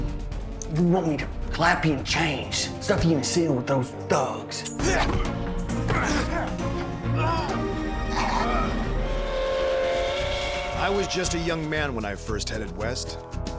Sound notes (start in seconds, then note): 5.7 grunting; 8.9 whistle blows